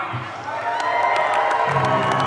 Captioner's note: audience cheering; lively orchestral music